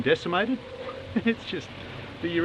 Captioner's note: laughs